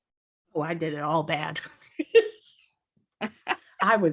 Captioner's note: laugh